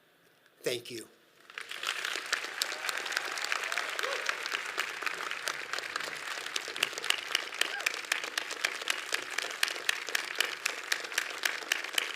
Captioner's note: audience claps and cheers